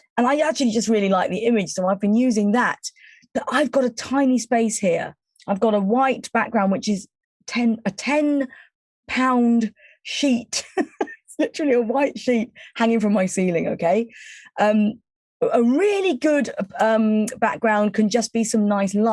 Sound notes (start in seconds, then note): 10.6 chuckling